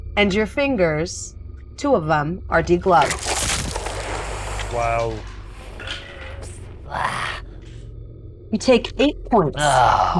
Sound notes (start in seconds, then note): 6.8 grunts